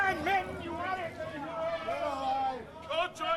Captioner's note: indistinct shouting